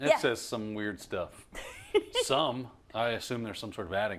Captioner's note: laugh